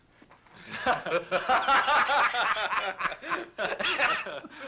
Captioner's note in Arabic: يضحك